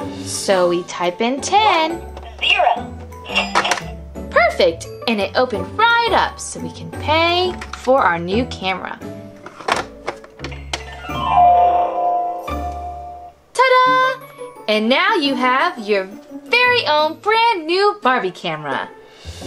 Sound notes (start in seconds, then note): 3.3 register clicks and rings; 9.4 drawer clicks; 10.8 harp glissando